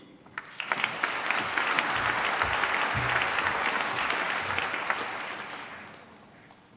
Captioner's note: applause